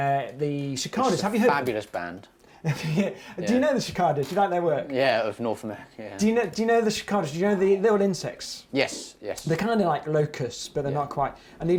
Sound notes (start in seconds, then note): 2.7 laughs; 6.2 chuckling